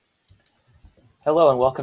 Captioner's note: mouse clicking